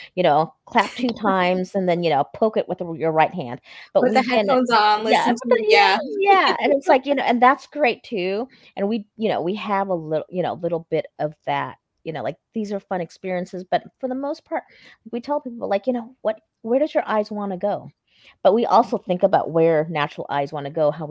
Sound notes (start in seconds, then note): 3.9 both laughing